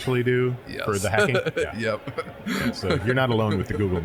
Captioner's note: laughing